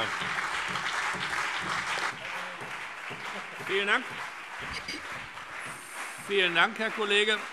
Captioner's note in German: Beifall BÜNDNIS 90/DIE GRÜNEN, CDU und auf der Regierungsbank